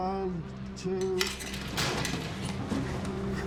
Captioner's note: grate being pulled away